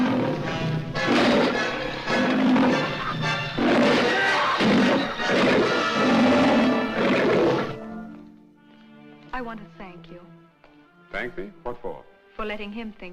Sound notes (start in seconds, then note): 0.0 roaring Continues; 1.0 Gargon Yells